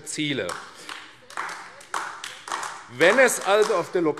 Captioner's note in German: Beifall AfD